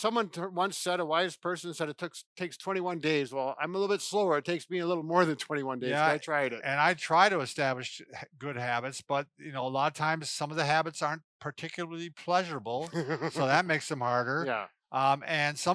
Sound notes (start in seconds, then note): 12.8 chuckles